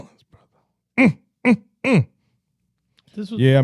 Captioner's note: grunting